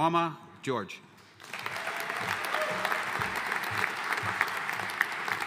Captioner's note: audience applauding